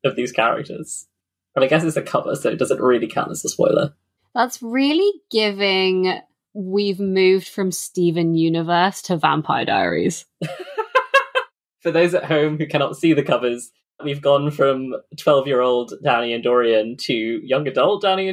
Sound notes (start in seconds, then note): 10.5 laughs